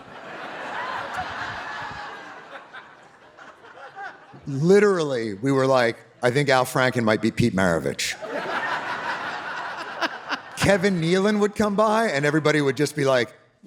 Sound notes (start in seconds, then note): 0.0 audience laughing; 8.2 audience laughing